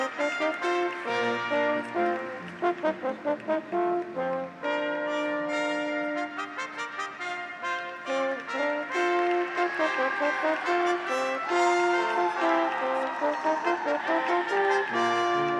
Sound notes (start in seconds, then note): 0.0 graduates cheer; 0.0 audience applauds; 9.7 audience applauds; 9.7 graduates cheer